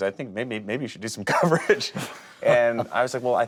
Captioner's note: laughs